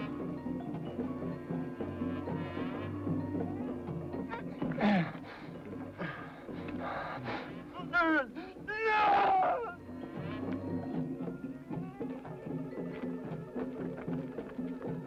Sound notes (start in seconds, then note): 4.2 grunting; 8.7 screams